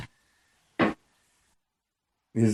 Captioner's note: thump or rattle